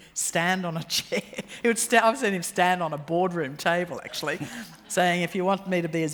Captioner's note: laughs